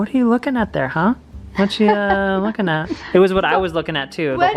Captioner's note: laughs